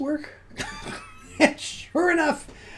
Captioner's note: laughs